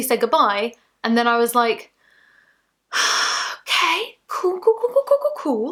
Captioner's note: sighs